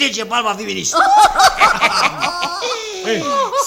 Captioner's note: they all laugh